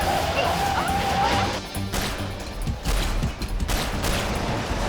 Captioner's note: gunshot